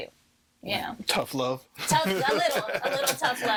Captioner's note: laughing